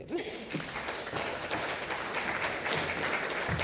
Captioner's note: applause